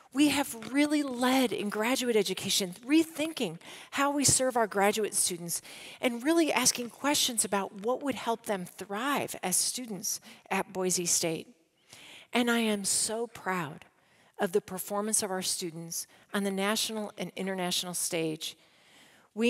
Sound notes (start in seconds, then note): none